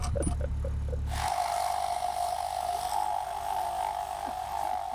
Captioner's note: laughs; drill buzzing